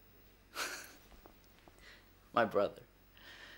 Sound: laughing

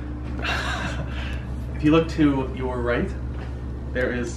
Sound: laughs

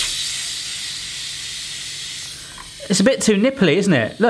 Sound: air hissing

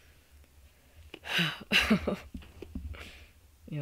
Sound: sniffling; loud sigh and laughing

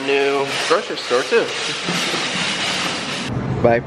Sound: shopping cart rolling

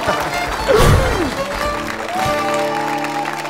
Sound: chuckle; boom; audience applause

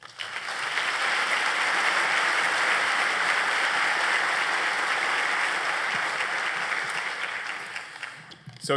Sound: applause

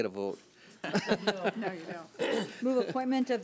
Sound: laughs

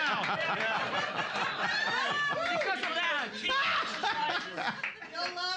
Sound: cheering and laughing

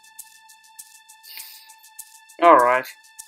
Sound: inhales

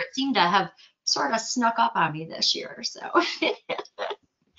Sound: chuckles

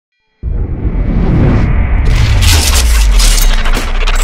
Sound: air swooshing

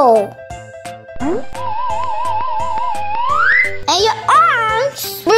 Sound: slide whistle

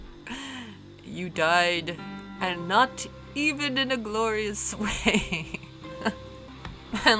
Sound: chuckling

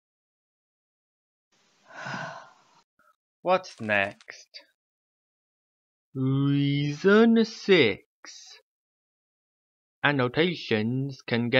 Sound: sighs

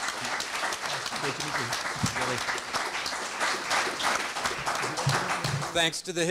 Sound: audience applauds; audience applauds

